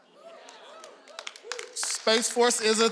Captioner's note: audience cheering